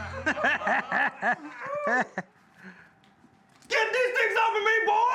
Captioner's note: everyone laughs